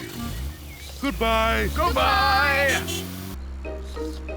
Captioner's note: slurping